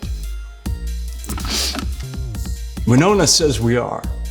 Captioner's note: sniffs